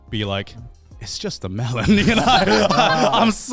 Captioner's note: laughs